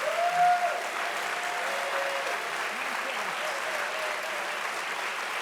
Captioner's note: audience applauding loudly